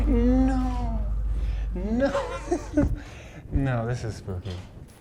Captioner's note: laughs nervously